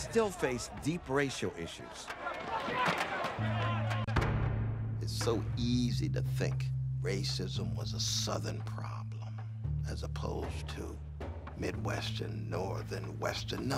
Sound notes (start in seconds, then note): 0.0 voiceover; 2.7 crowd yelling; 2.7 shouting